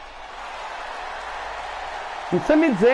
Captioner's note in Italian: Applauso